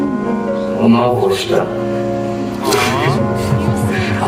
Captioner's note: giggles